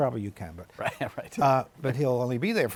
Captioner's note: laughing